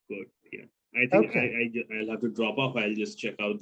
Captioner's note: voice muffling